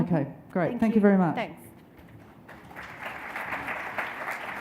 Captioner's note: applause